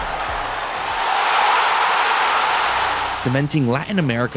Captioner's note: crowd cheering